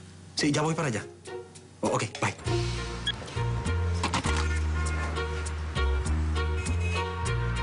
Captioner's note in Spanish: Bip